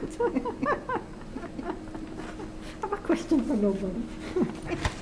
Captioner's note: chuckles; laughs